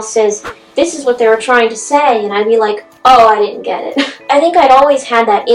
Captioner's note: laughs